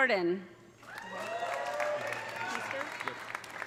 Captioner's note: audience applauding; audience cheering